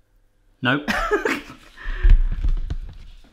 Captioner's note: laughs